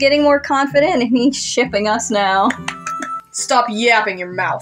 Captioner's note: clapping